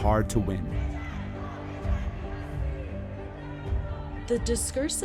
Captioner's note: soundbite of protest